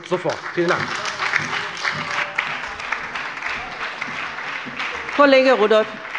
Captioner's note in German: Beifall bei der FDP, der SPD und der LINKEN